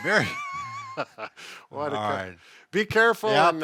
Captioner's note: laughs